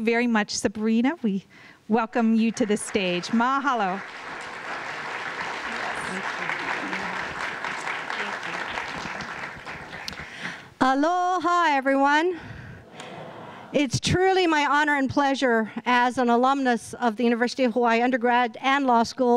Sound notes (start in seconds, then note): 4.1 applause